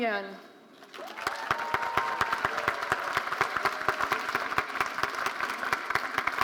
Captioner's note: audience cheering and applauding